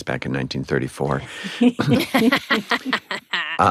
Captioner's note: all chuckle